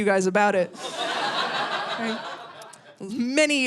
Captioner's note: audience laughing